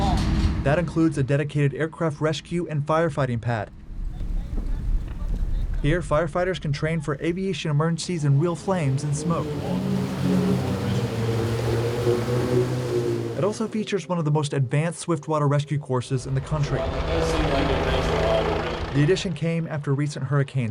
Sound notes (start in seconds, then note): 8.1 plane engine roaring